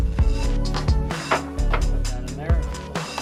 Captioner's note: tapping